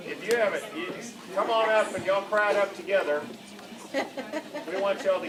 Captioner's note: laughter